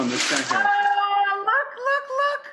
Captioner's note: none